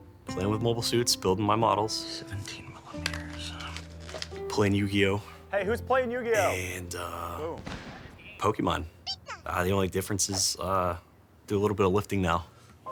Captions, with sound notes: Playing with Mobile Suits, building my models. 17 millimeters. Playing Yu-Gi-Oh. Hey, who's playing Yu-Gi-Oh? And Pokemon. (Pikachu Noise) The only difference is, do a little bit of lifting now.